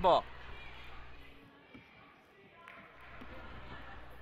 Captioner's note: crowd talking